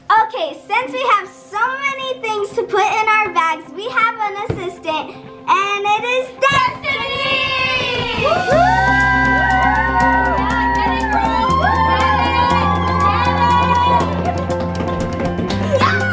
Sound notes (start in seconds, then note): 7.1 cheering